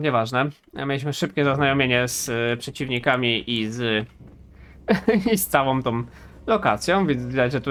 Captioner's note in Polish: śmiech